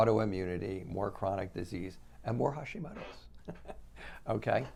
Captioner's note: laughs